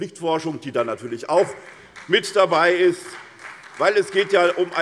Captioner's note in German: Beifall SPD